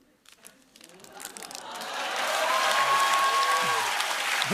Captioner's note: cheers and applause